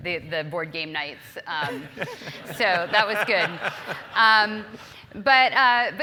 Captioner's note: laugh